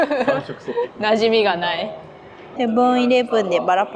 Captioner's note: laughs